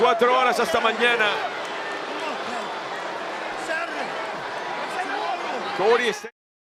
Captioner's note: applause